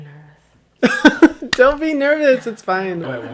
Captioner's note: laughs